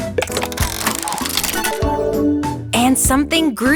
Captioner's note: mechanical whirring